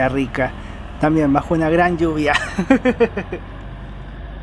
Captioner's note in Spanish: risas